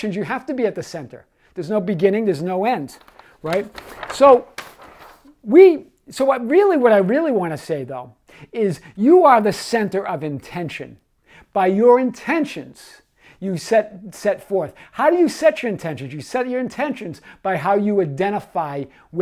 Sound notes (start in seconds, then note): 2.8 paper rustling